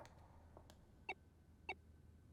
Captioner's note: beeping